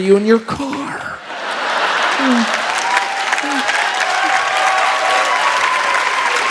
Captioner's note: audience laughs and cheers